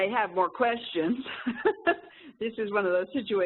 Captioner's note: chuckles